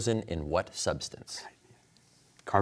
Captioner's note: whispers